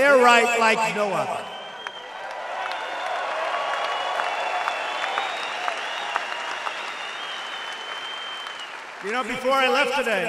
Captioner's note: applause